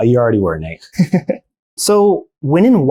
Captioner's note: chuckles